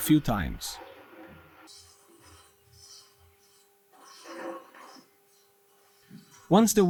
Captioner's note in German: Rad- und Bremsgeräusche